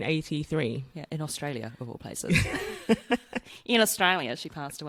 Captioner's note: aussie accent